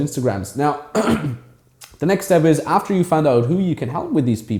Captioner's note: clears throat